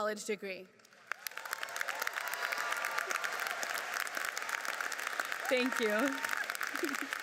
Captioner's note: audience cheers and applauds